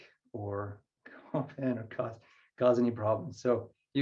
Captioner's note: laughing